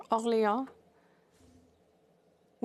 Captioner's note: speaking French